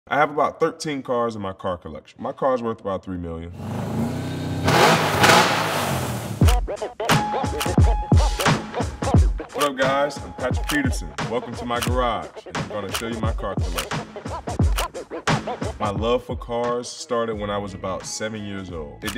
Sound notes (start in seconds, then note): 3.6 engine firing; 6.6 hip hop beat